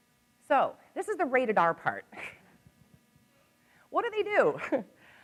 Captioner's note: laughs